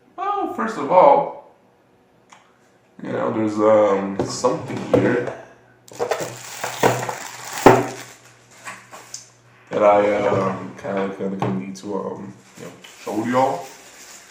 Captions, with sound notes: Well, first of all... Y'know there's uh, something here... (opening drawer noises) That I uh, (stuttering like I'm Porky Pig), kinda need to show y'all...